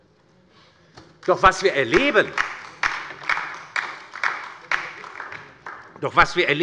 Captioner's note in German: Beifall bei der LINKEN